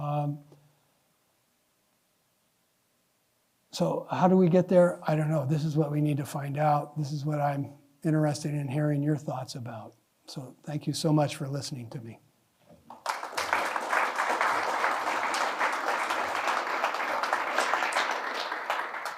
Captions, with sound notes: So how do we get there? I don't know. This is what we need to find out. This is what I'm interested in hearing your thoughts about. So thank you so much for listening to me. [APPLAUSE]